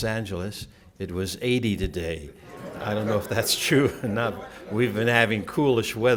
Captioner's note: laughter